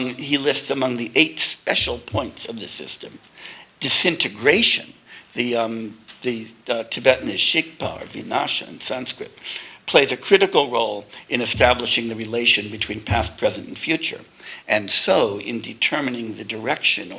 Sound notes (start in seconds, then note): 6.5 tibetan